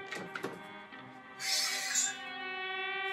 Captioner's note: siphon opens